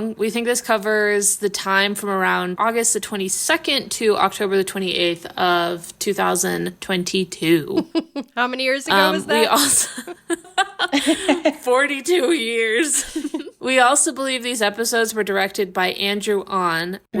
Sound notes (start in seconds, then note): 7.7 laughing; 12.7 laughing